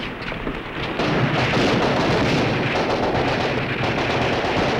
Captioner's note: gunfire